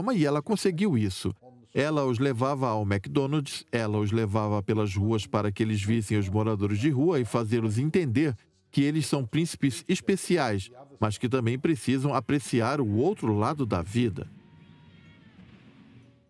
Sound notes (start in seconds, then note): 11.7 screaming